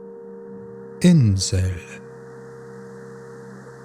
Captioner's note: german